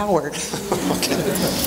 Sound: chuckling

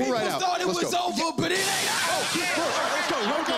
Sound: screams

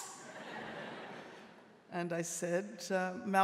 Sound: audience laughing

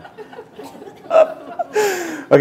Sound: laughter

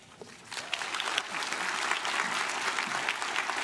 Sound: crowd claps

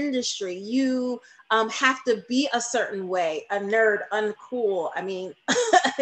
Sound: laughing

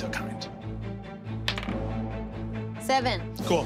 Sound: dice clatters

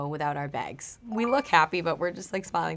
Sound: chiming

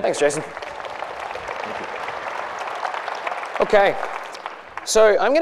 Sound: applause

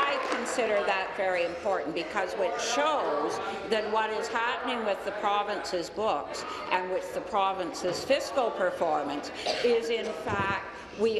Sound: applause

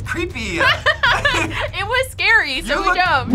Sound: both laugh

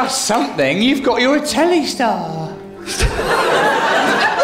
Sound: voice breaks

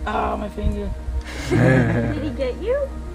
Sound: laugh

